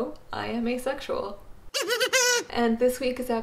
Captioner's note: kazoo sound effect